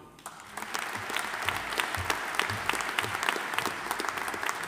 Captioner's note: audience applauding